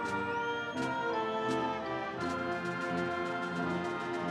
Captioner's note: audience cheering